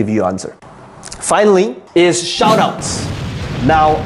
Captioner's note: bomb exploding